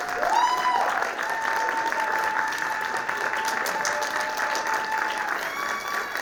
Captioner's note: audience applauding